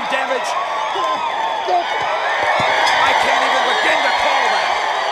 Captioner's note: applause